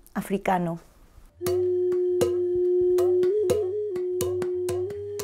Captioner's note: quiet, pounding sounds